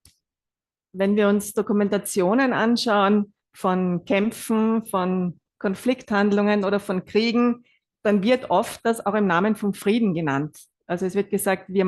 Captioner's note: German live translation